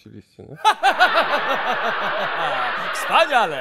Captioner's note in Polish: ha ha ha ha ha